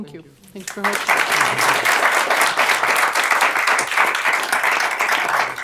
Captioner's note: applause